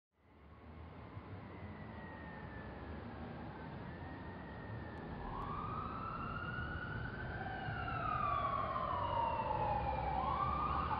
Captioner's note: sirens